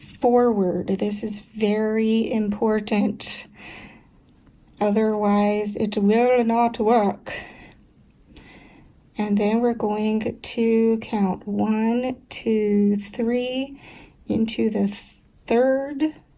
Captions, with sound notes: This is VERY important! Otherwise, [German accent] it vill not vork! Then we're going to count one, two, three, into the third